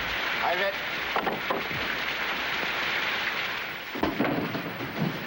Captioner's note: speaking foreign language